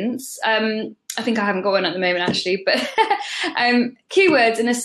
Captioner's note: laughs